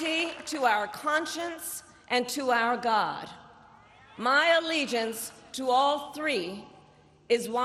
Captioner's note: applause